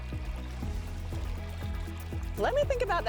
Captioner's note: water flowing